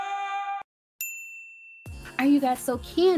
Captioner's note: bell rings